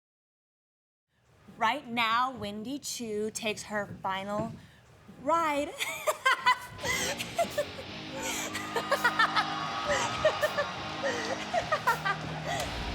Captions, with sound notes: Right now Wendy Choo takes her final ride. (laughs) (rock music) (crowd cheering)